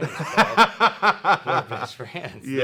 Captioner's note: laughs